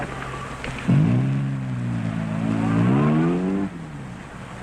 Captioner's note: engine rumbling